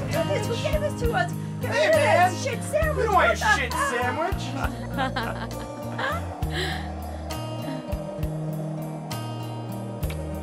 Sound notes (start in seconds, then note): 4.9 laughing